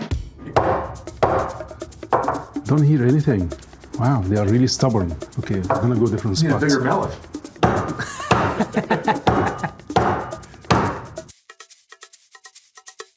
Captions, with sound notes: - Don't hear anything. Wow, they are really stubborn. Okay, I'm going to go on a different spot. - Bring you're mallet. (chuckles) (mallet pounding)